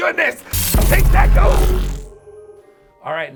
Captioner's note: electricity buzzing